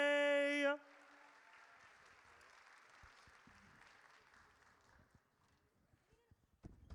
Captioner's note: audience cheers